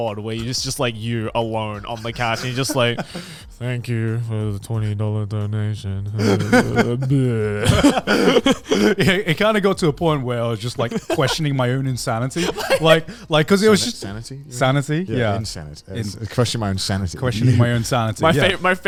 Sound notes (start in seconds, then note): 6.2 laughs